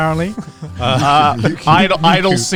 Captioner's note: giggling